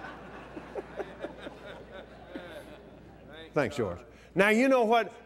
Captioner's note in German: lacht